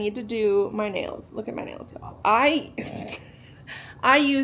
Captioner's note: snorts